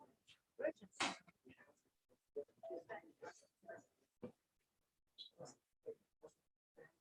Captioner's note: background chatter